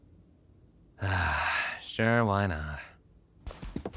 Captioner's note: sighs